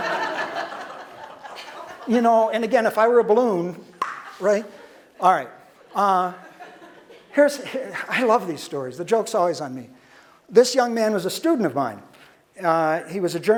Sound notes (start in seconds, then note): 0.0 audience laughter; 4.0 popping sound